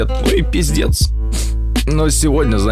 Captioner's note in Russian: Всхлипывание